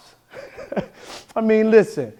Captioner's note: laughing